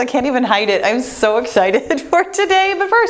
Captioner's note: laughs